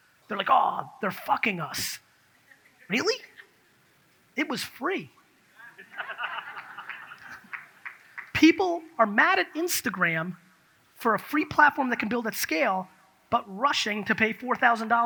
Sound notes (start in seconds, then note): 5.7 audience laughs